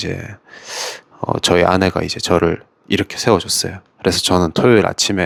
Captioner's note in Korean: 콧방귀